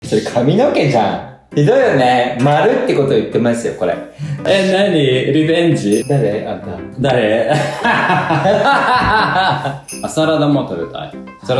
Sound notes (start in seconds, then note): 5.8 laughs